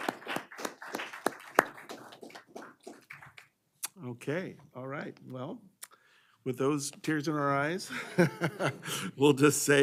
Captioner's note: applause